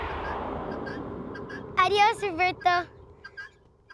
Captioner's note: speaking spanish